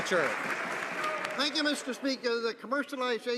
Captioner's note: some Applause